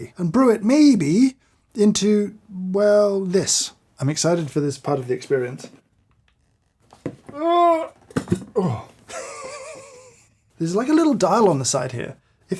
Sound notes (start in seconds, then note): 8.5 grunts; 9.0 chuckling